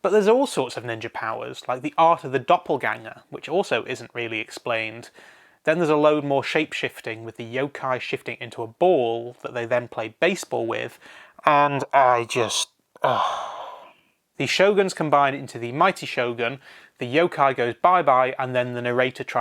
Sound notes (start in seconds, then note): 13.0 sigh